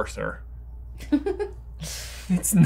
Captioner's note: chuckles